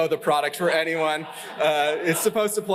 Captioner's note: laughter